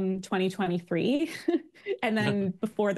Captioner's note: laughs